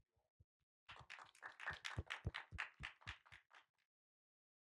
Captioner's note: applause